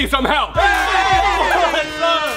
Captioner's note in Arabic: الضيوف يهتفون; صوت بوق هوائي